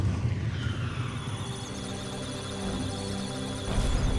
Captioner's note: electronic sounds of data; musical tones